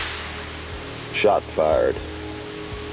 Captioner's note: gun shot